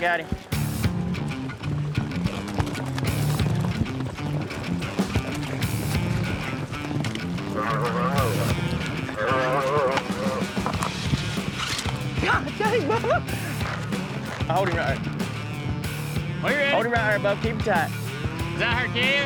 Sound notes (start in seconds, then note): 7.3 calf moos; 13.7 laughing